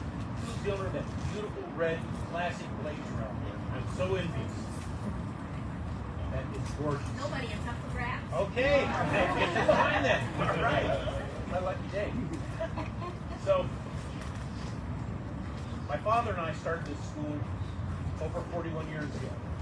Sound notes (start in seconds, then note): 8.9 audience laughs